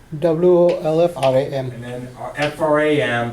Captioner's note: voiceover